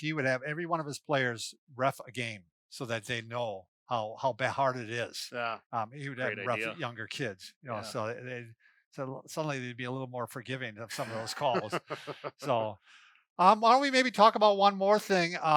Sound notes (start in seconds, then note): 10.8 laughs